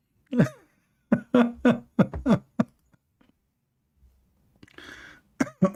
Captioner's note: Ketawa